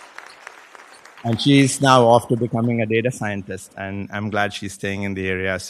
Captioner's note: applause